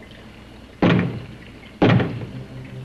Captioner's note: knocks twice